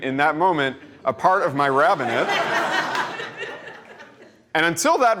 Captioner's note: laughter